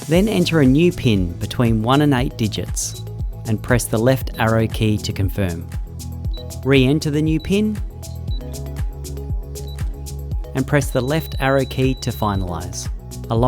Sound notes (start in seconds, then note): 7.8 keypad beeping